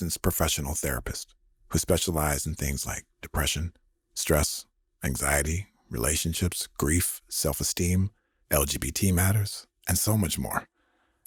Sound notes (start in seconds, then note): none